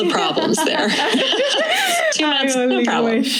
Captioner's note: laughing